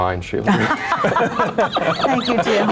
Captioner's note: all laughing